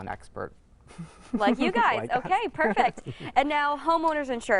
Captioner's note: laughter